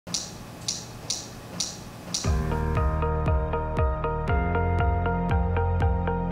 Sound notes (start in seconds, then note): 0.6 lights clicking; 2.2 lighthearted music